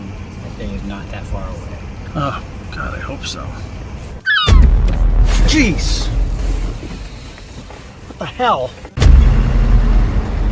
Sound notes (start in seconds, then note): 4.2 gull squawking; 4.4 window thudding